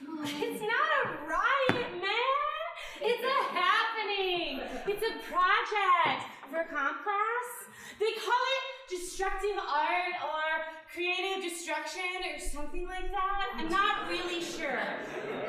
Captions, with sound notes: >> (laughing) It's not a riot, man! It's a happening! It's a project for comp class. They call it "destructive art" or "creative destruction" or something like that. (audience laughing) I'm not really sure.